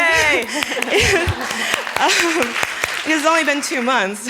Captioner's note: applause